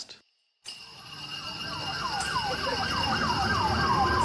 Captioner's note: sirens blaring